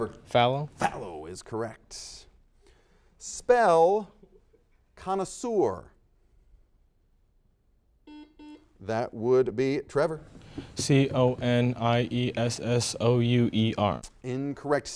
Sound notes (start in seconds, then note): 8.1 series of beeps